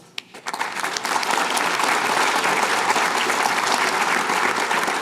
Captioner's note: applause